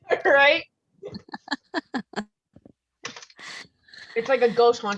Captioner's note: laughter